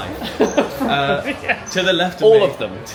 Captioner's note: laughs